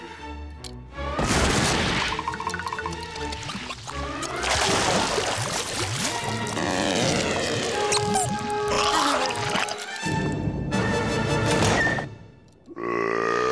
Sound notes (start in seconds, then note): 0.7 thudding; 6.2 squeaking; 12.6 belching